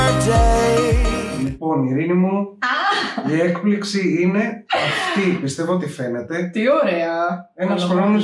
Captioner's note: laughs